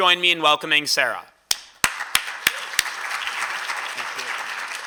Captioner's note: applause